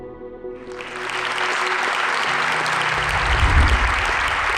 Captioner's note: applause